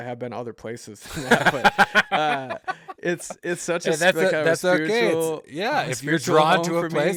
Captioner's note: laughs